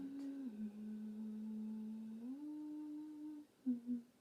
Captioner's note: soft eerie humming